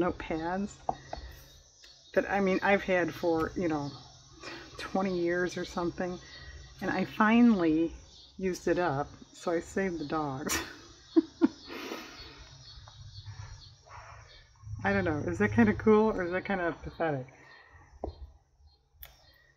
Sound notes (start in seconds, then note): 11.0 laughs